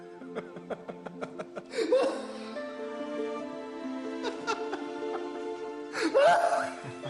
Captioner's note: laughing